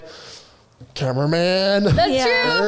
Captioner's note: breaths heavily